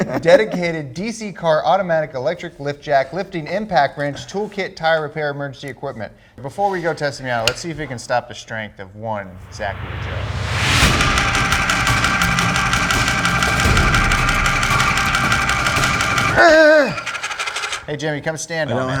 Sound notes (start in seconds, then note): 9.3 intense music; 10.5 jack whirring; 16.3 groans